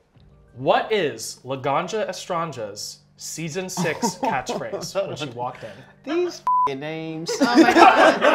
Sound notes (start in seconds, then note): 6.4 beep